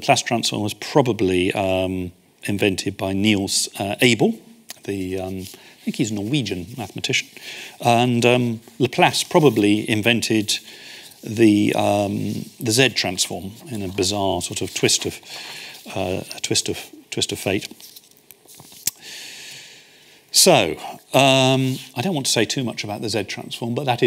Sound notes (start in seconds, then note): 18.8 smacks lips; 19.0 inhales